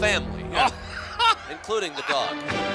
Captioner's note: laughs